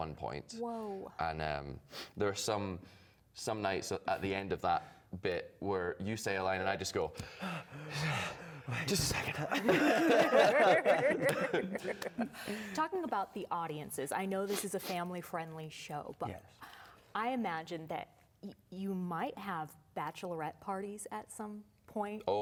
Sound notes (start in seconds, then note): 7.2 heavy breathing; 11.6 laughter